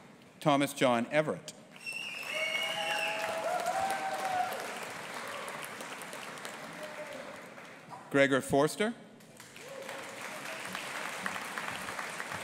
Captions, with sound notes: Thomas John Everett. (AUDIENCE APPLAUDING AND CHEERING) Gregor Forster. (AUDIENCE APPLAUDING)